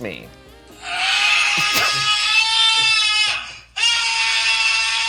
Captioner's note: recorded screaming sound